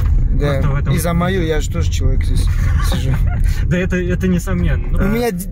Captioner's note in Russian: смеётся